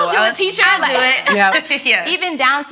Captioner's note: ladies laughing